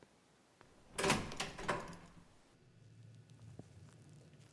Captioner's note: door opens